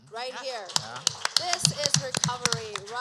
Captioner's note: applause